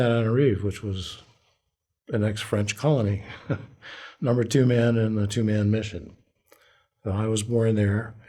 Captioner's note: laughter